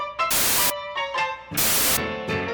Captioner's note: Static